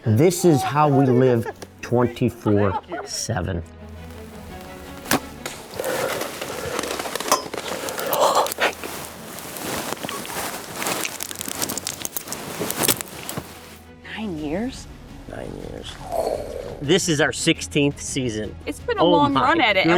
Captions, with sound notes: This is how we live 24/7. (bullet thudding) - Nine years? - Nine years. This is our 16th season. - It's been a long run at it,